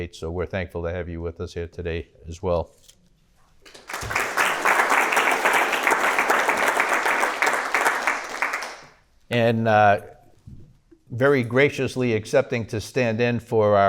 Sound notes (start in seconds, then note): 3.6 people clapping